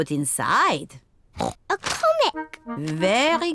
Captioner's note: oinks